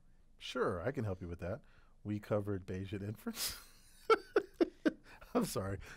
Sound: laugh

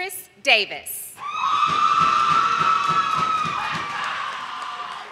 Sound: audience applauding

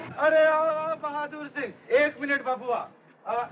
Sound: none

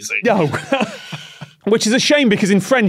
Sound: laughs

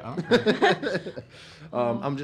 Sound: laughs

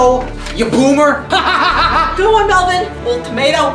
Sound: laughs

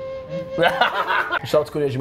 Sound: laughs

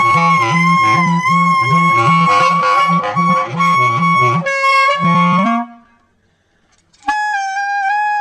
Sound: seagull noises

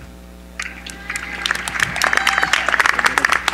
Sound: applause

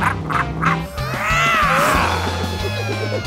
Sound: laughing; roaring

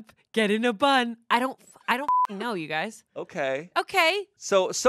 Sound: beep

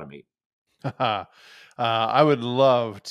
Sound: chuckles

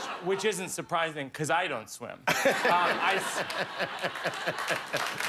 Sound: laughter; applause

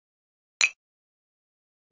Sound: clink

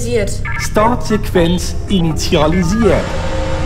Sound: Irish accent

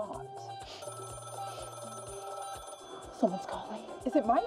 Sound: phone ringing

